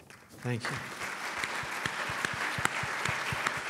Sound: applause

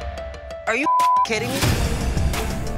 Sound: beep

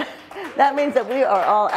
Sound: audience claps and cheers

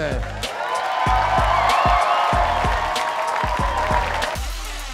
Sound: cheers and applause

